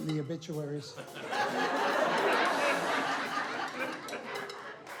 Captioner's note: laughing